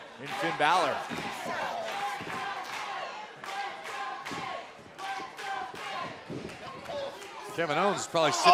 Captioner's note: crowd cheering